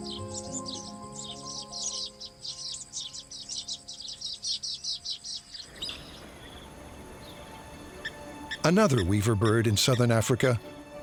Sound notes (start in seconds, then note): 1.1 birds twittering